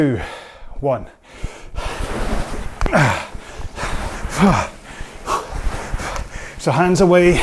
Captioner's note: breathing heavily